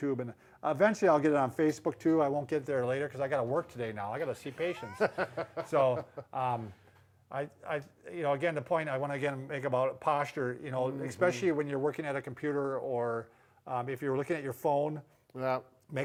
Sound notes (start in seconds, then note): 4.5 chuckles